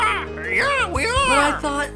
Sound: squawking

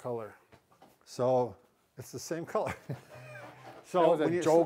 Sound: chuckles

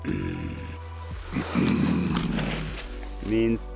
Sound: hh mmm mmm

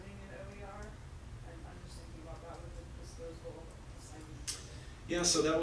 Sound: talking off microphone

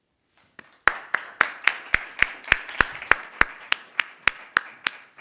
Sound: audience applauding

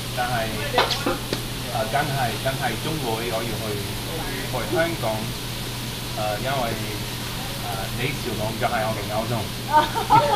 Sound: mandarin

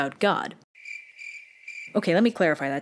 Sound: crickets

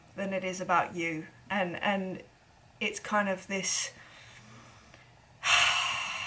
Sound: sighs

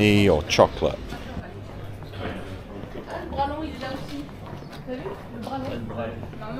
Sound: speaking in foreign language

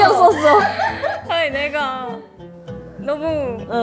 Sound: almost crying

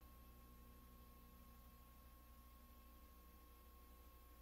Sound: VHS static

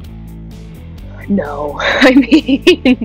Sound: laughing

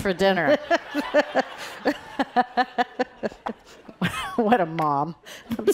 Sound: laughing

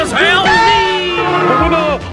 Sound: goofy holler

